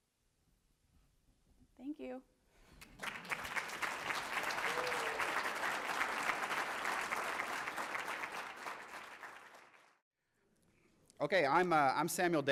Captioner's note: applause